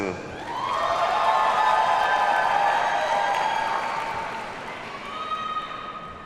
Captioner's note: audience cheers and applauds